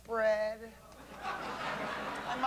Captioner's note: laughter